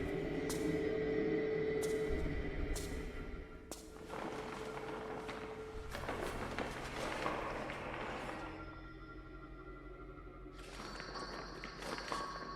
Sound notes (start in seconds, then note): 4.1 creature rustling